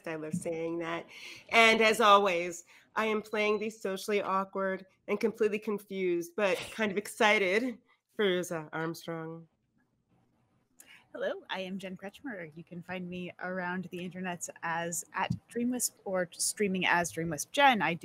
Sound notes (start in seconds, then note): none